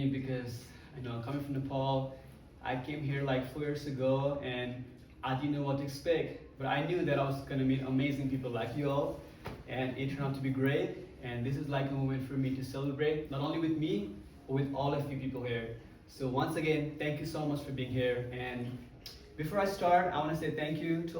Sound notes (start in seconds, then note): none